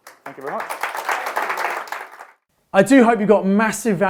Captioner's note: audience applauds